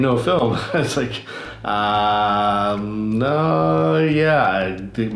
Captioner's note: laughs